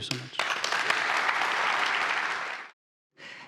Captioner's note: audience applauding